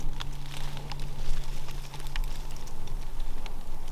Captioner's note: leaves rustling